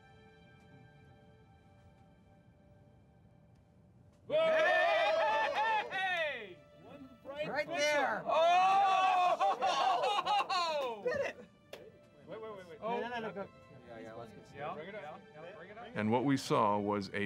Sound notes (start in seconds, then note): 4.3 all cheering